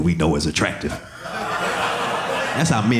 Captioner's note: audience laughing